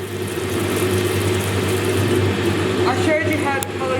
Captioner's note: loud rumbling